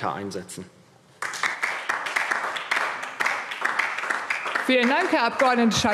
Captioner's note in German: Beifall DIE LINKE